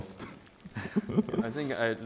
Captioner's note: laughs